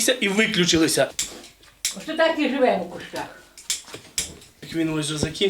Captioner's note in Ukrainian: клацає запальничкою, запалюючи газ